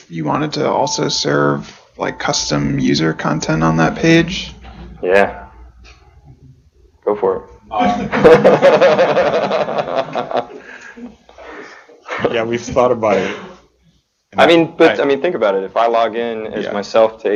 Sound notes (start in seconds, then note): 7.7 laughter